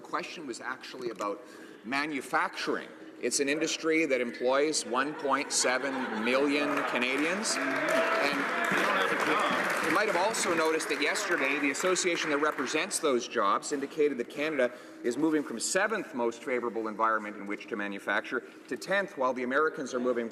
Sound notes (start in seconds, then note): 11.7 some Applause